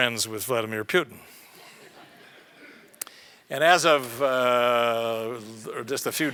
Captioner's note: laugh